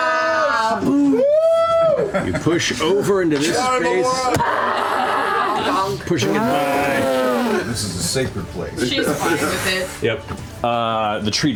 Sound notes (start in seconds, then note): 0.0 cheering; 6.1 roaring